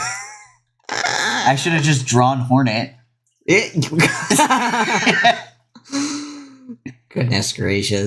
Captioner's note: laugh